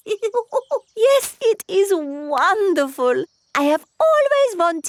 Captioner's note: laughs